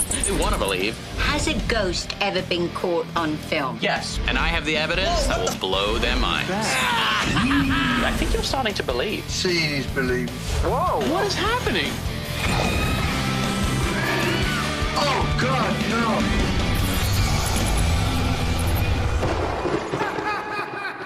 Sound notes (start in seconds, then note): 6.4 cackles; 12.4 shrieks; 19.9 laughing